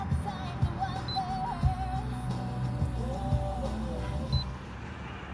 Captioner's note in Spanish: Bip